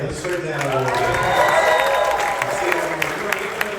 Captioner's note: audience cheering